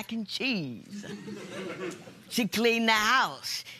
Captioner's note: laughter